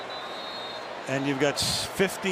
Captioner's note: whistle